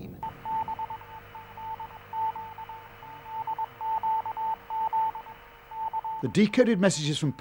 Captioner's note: morse code beeping